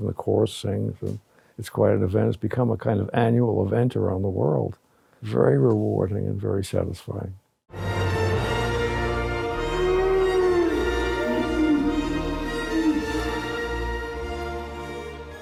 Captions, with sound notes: and the chorus sings and it's quite an event. It's become a kind of annual event around the world. Very rewarding and very satisfying. (inspiring music) (dinosaurs bellow)